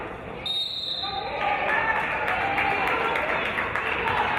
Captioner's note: referee's whistle